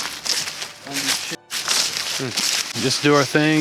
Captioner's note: leaves crunch